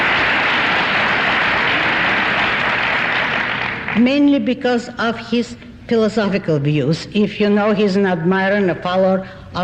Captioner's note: applause